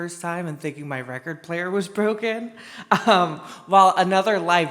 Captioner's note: laughs